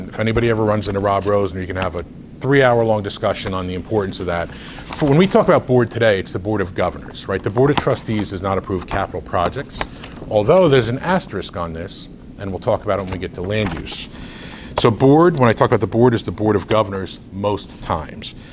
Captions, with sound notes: If anybody ever runs into Rob Rosen, you can have a three-hour long discussion on the importance of that. (rustles papers) When we talk about board today, (rustles papers) it's the Board of Governors, right? The Board of Trustees (rustles papers) does not approve (rustles papers) capital projects, (rustles papers) although there's an asterisk on this, and we'll talk about it when we get to land use. So board, when I talk about the board, it's the Board of Governors most times.